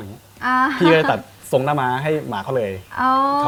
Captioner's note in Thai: หัวเราะ